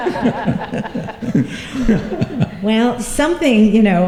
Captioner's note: laughter